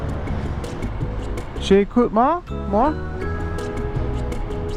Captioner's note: in french